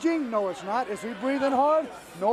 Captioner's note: crowd chatter